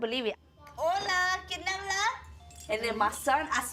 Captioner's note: speaking in Spanish